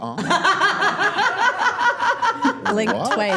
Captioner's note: laughing